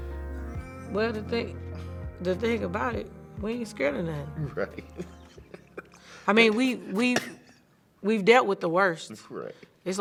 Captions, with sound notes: - Well, the thing about it, we ain't scared of nothing. - Right. (chuckles) - I mean, we've dealt with the worst. - That's right.